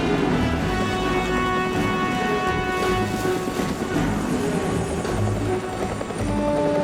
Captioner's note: helicopter whirs; tense dramatic music